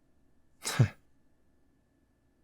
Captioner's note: chuckles